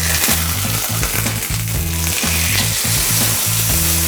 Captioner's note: meat sizzling